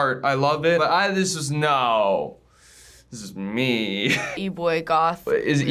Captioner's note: chuckles